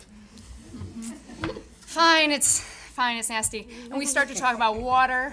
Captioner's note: audience chuckling